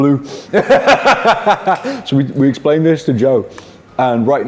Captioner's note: laughs